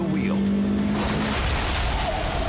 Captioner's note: SUV hums loudly